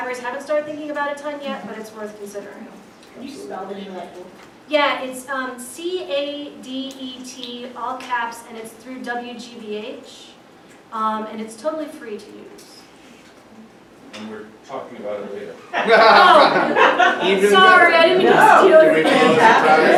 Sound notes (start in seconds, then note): 15.6 crowd laughs